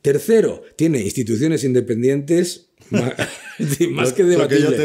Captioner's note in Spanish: risas